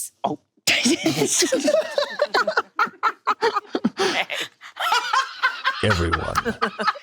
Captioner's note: group laughing; cackling